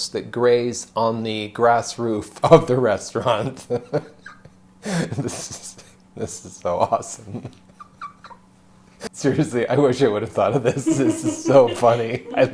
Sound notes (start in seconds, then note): 3.5 laughing; 7.0 laughing